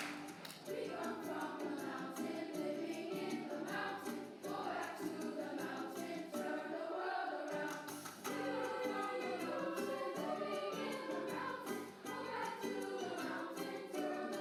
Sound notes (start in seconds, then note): 6.0 clapping